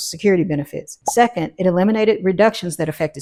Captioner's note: bubble popping